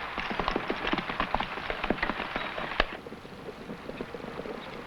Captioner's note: horse hooves pattering